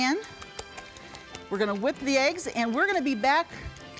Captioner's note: whisking